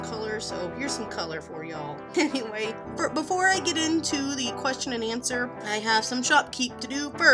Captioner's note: giggles